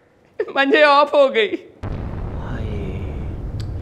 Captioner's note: Popping